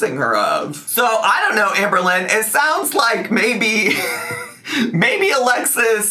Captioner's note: chuckles